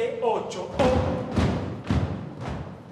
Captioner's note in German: Rhythmisches Fußstampfen